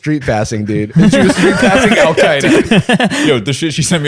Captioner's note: laughter